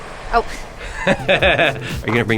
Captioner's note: laughs